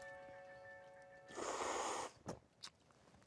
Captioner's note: slurping